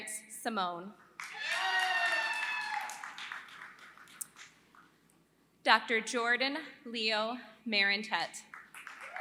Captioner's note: applause; applause